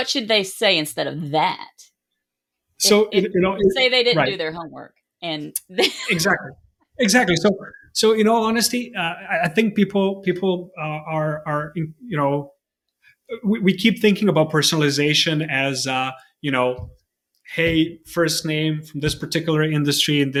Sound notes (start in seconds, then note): 5.6 laughing